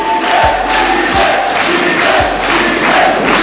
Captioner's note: crowd